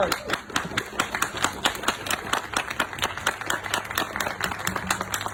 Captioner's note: audience applauding